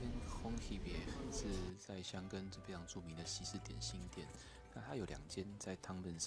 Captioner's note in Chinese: 法語